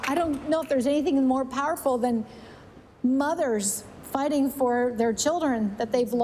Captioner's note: applause